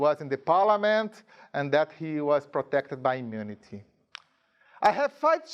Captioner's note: none